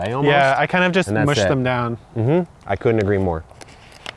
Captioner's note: hums